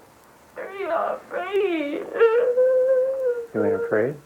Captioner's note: crying